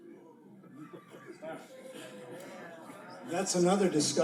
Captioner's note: audience surprised